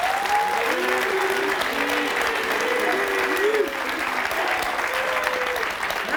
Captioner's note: audience clapping and cheering